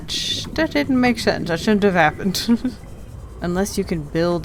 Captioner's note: laughs